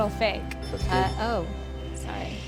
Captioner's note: beeping